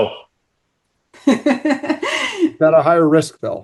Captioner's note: laughs